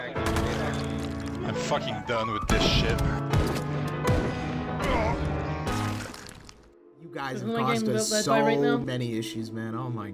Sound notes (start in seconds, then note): 0.2 body drops; 4.0 gunshots; 4.5 groan; 5.4 body drops